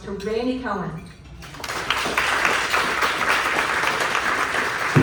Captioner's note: applause